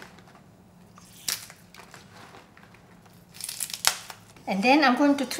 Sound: peppers crunching

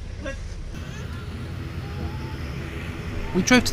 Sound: planes buzzing

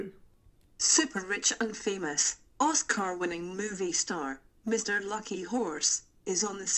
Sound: female voice

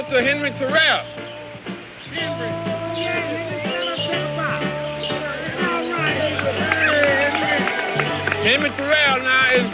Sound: cheering and applause

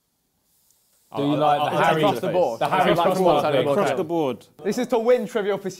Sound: both mumbling

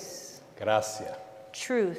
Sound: speaking in Spanish

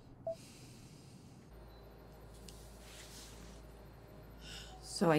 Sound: John exhales softly

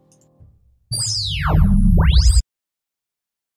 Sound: frequency Sweep

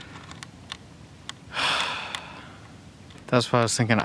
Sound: sighs

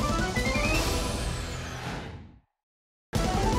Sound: whoosh

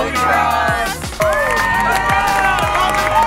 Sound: cheering

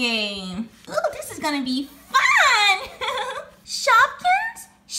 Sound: laughs

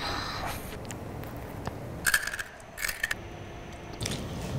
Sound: crunching

